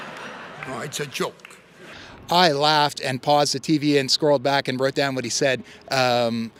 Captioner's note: cheers and applause